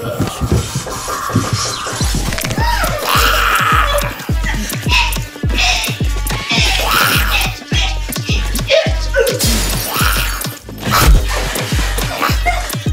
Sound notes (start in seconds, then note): 0.2 demon groaning hauntingly; 3.2 demon screaming threateningly; 9.5 glass crashing loudly